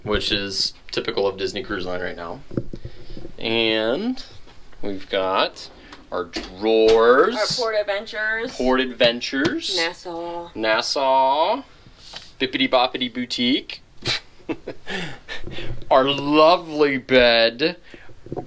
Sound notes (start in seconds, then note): 14.0 chuckles